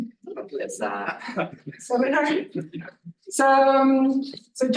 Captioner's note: attendee laughing